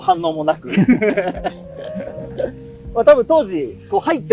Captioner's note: laughing